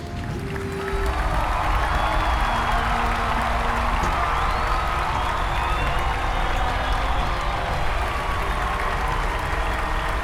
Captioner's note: crowd cheering